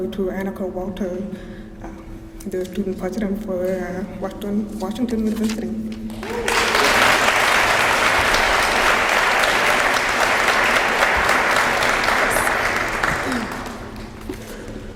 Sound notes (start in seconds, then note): 6.1 applause